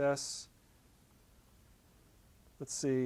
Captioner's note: pause